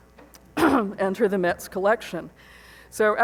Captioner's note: clears throat